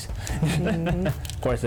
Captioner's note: laughs